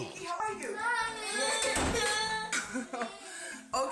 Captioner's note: children crying